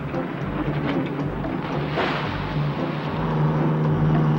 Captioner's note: water splashes; truck engine whirring